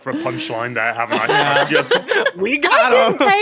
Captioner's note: laughs heartily